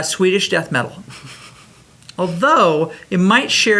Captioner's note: laughs